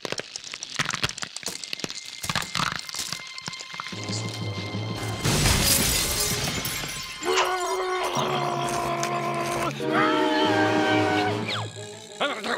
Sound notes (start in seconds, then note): 5.0 glass shattering; 7.8 grumbling angrily; 10.2 high-pitched growl